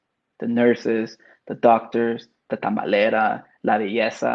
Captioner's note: speaks Spanish